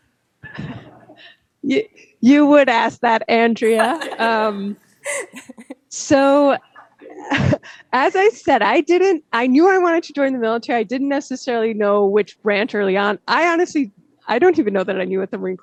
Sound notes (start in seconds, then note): 3.7 laughter